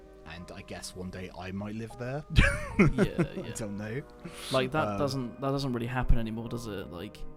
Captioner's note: laughs